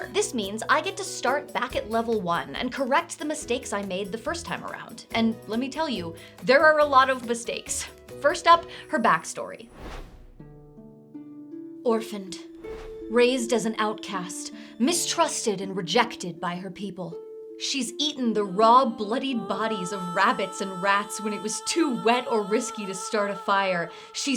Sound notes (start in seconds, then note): 9.7 screen whooshing; 9.7 dramatic music